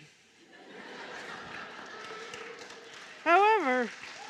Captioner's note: laughter and clapping